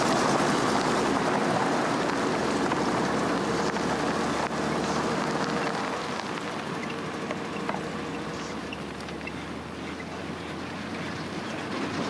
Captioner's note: vehicle rumbling